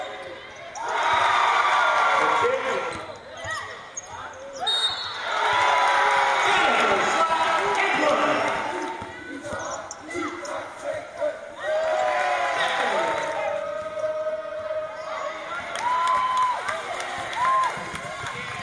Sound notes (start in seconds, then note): 0.7 cheers; 5.1 cheers; 11.6 cheers